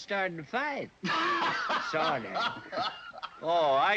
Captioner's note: hoppy laughter